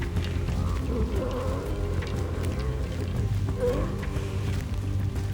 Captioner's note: pig grunting